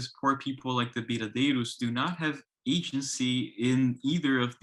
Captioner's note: speaks in foreign language